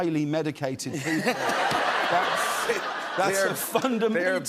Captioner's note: laughter